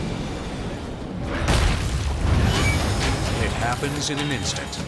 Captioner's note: logo slams